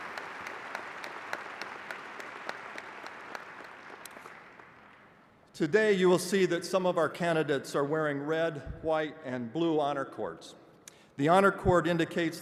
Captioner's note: applause